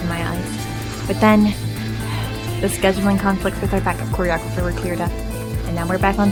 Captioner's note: sigh